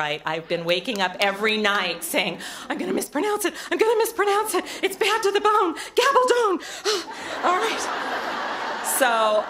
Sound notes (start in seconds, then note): 7.2 laughter